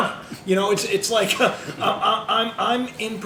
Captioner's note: laugh; laughter